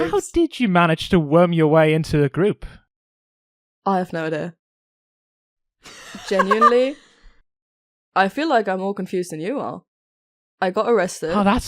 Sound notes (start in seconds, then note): 5.8 Alyssa laughs